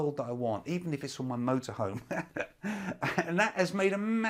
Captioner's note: laughs